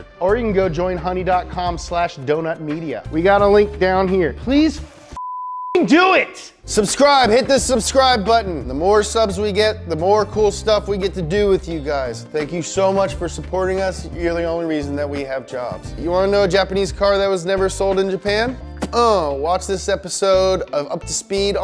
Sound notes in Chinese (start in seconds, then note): 5.2 嘟嘟声